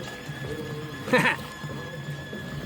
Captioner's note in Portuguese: risos